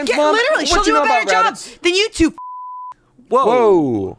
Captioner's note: beep